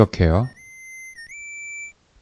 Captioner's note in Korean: 이때 휘파람 소리가